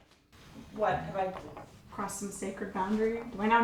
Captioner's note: none